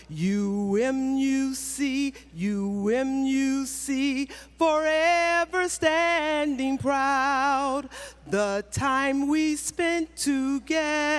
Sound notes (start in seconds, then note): none